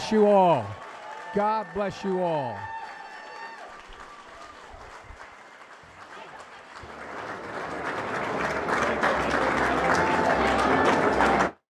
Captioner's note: applause; applause